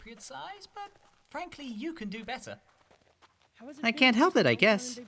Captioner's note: Umbreon and Flareon speaking distantly